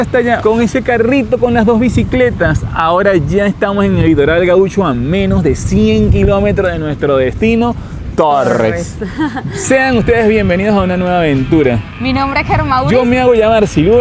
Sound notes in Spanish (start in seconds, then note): 8.9 risas